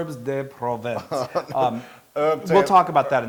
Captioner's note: laugh